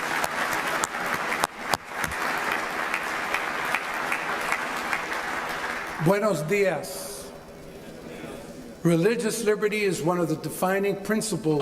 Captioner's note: applause